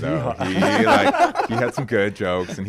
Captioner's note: laughs